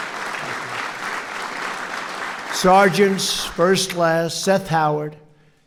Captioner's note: applause